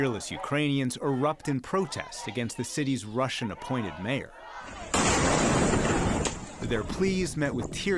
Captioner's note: chanting